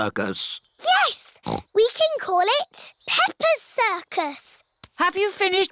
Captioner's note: snorts